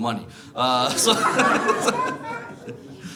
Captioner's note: laughs